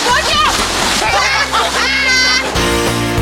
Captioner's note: laughing; upbeat music